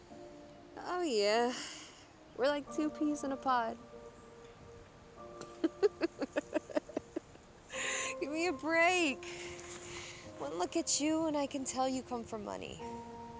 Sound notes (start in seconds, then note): 5.5 Mackenzie laughing